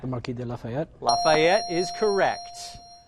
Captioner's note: ding